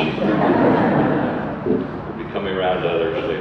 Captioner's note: audience laughter